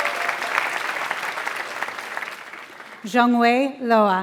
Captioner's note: applause